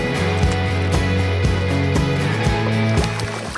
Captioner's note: water splashing